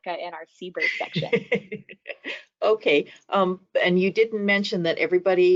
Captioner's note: laughing